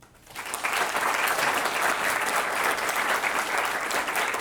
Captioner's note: students applauding